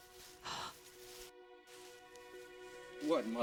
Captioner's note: gasp